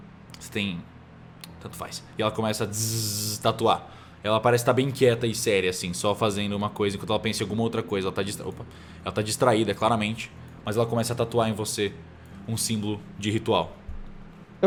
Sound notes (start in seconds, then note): 2.7 tzzz